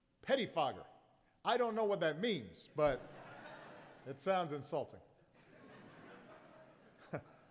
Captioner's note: laughter